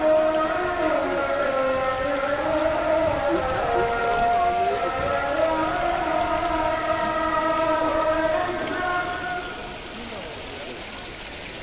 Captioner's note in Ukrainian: оплески